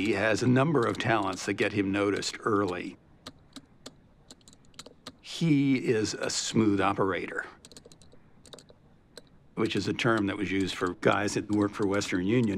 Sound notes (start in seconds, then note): 4.4 tapping continues